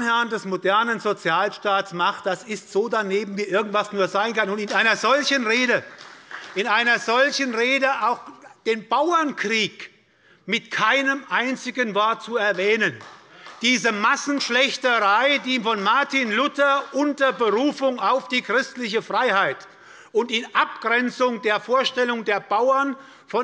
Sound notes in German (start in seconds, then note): 4.5 Beifall bei der FDP; 12.8 Beifall bei Abgeordneten der SPD